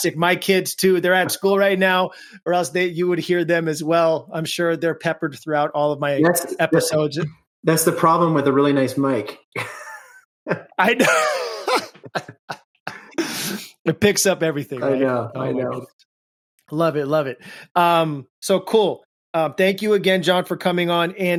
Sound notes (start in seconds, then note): 9.5 both laughing